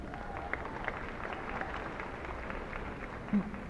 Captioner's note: applause